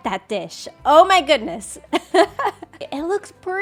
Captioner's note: laughs